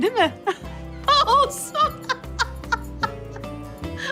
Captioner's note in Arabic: يضحك